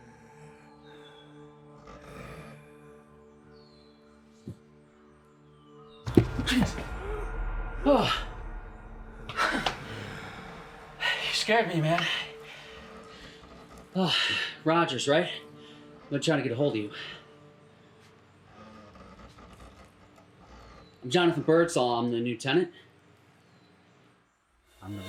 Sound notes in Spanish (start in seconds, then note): 0.2 extraño jadeando; 8.1 Jonathan suspira; 24.6 música inquietante